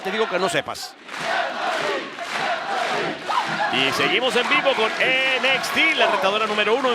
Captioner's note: applause